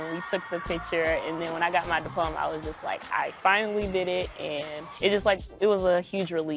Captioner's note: cheering